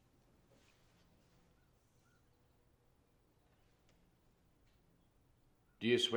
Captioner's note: silence